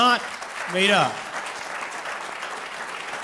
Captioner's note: applause